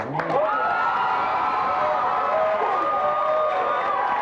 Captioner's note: audience applauds